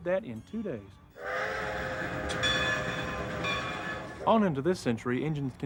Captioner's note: train whistle and bells